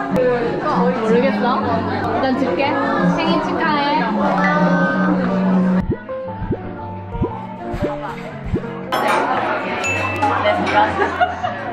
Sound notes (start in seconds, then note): 8.4 heart pumping